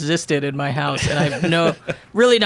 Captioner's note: laughs